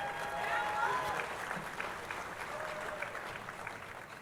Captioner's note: crowd cheering